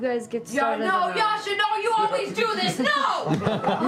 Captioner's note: shouting; laughter